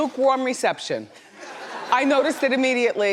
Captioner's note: laughs